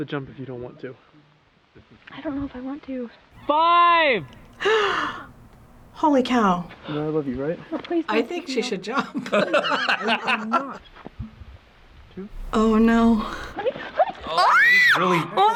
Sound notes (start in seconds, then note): 4.3 gasps; 9.6 both laugh; 12.3 squeals